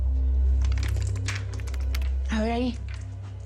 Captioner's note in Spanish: Tecleo